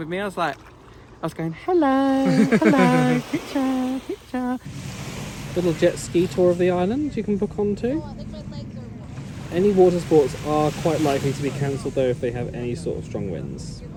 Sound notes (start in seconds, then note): 4.9 waves splashing